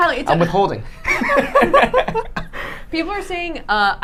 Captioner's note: laughing